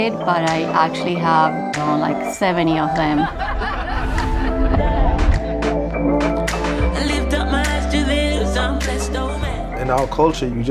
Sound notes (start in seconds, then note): 3.0 friends laughing; 6.3 upbeat music playing